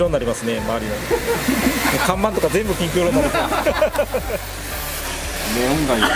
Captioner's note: laughs